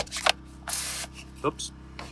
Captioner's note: pump action sprayer spraying